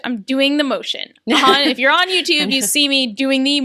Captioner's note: laughs